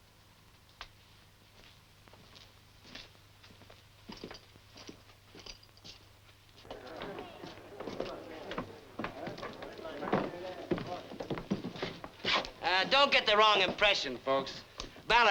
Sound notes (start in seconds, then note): 6.6 people chatting